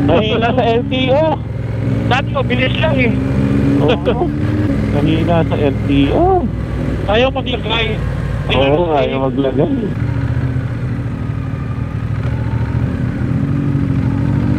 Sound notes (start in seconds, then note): 1.3 distorted audio; 7.0 distorted audio